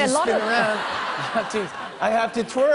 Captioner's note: laughter